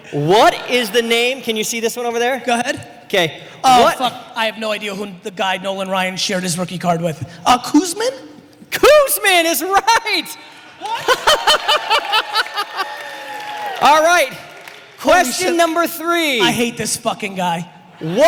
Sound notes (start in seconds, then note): 12.8 audience laughter and applause; 17.9 audience laughter